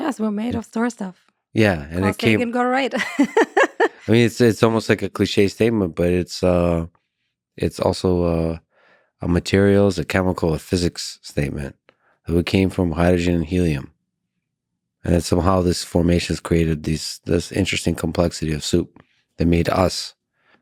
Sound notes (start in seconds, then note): 3.0 laughs